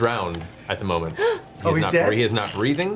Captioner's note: gasps